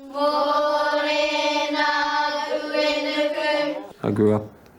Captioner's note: children chanting in Maori